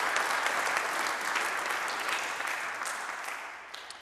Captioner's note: audience applauding